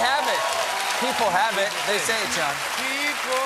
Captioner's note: cheers and applause